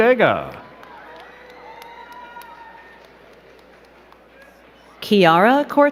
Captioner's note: crowd cheering and clapping